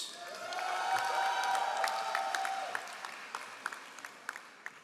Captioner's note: all applauding